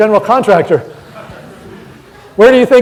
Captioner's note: audience laughing